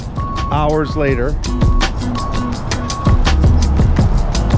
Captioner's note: truck backs up